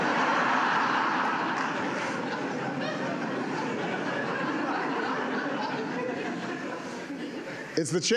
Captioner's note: laughter